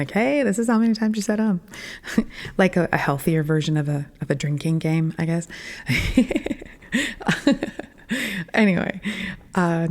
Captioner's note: laughing